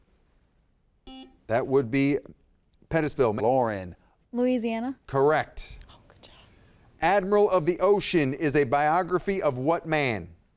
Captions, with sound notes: (buzzer dings) That would be Pettisville. Lauren. - Louisiana. - Correct. - Oh, good job. - Admiral of the Ocean is a biography of what man?